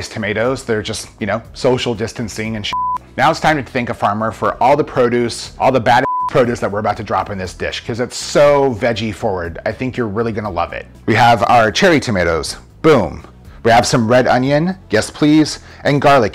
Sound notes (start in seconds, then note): 2.7 beep; 6.0 beep